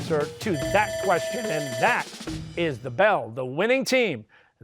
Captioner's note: bell rings